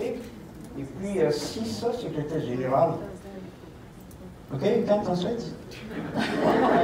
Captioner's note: laughter